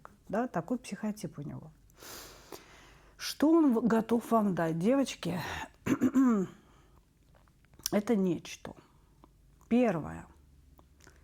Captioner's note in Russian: откашливается